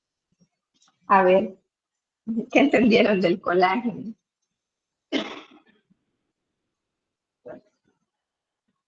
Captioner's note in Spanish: carraspeo